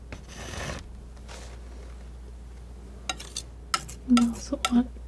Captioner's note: scratching